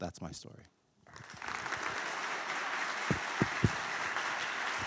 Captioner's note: applause